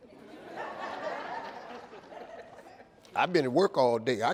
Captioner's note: audience laughing